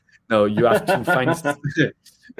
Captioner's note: laughter